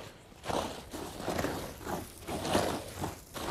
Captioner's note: rustling